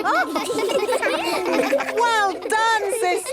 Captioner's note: children laughing